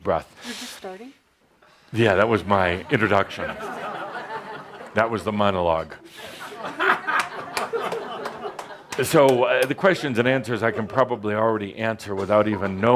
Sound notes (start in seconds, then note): 6.0 much laughter; 6.1 laughter